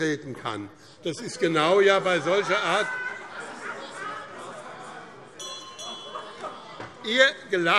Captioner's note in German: Lachen und Zurufe DIE LINKE - Glockenzeichen